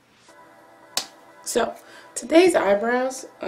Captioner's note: claps hand on top of the other